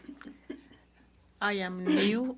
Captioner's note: speaking French